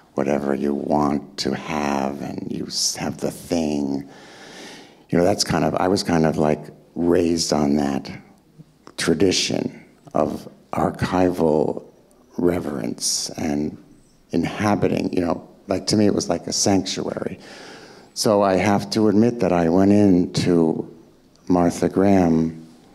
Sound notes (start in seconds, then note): none